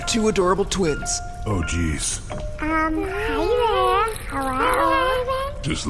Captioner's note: cutesy kid voice